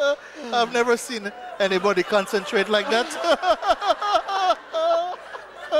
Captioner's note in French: rires